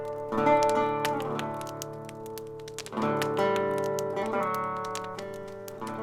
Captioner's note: sitar music; fire crackling